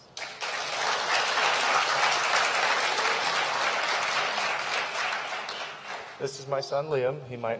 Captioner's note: applause